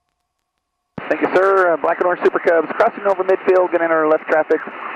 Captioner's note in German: über Flugsicherungsfrequenz